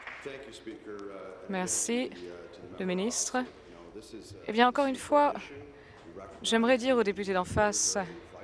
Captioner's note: applause